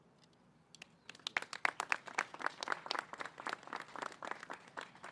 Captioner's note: applause